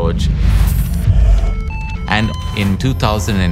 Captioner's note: dramatic music; cardiac monitor beeping